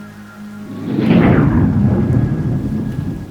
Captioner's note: thunder